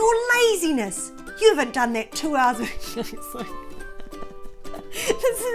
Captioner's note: cracks-up laughing